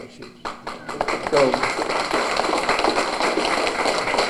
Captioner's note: applause